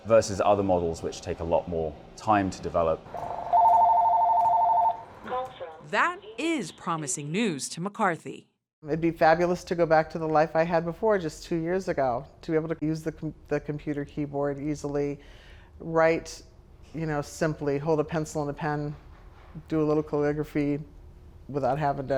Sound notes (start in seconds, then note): 3.1 phone ringing